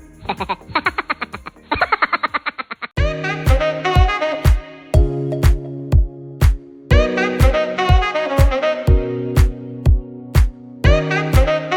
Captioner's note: laughing